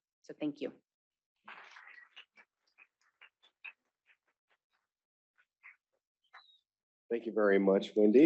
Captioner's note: applause